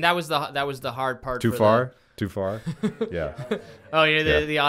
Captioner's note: laughing